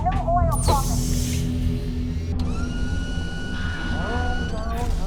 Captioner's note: door hissing